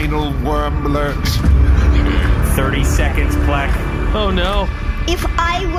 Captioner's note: terrified